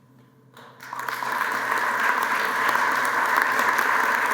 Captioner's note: applause